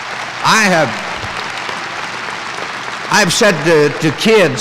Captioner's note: applause